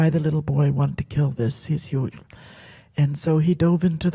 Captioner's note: speaks Halkomelem